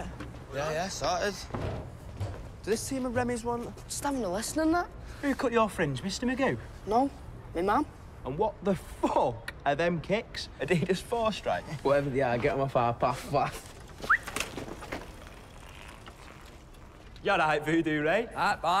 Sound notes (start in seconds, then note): 14.0 whistles